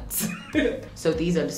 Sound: laughing

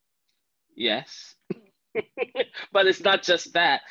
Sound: chuckles

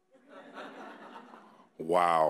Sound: audience laughing

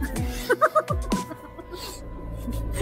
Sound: Poonam laughs

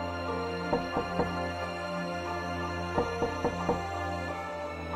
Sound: mysterious music; knocking on door

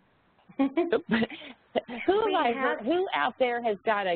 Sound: laughter

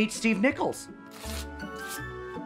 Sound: paper ripping; bright music

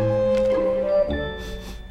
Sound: sniffing

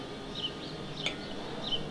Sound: sound of airplane

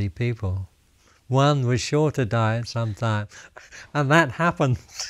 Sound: laughs

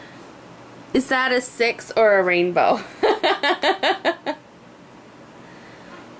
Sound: laughs

